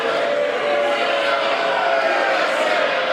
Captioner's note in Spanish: aplausos